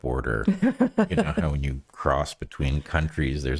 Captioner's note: laughing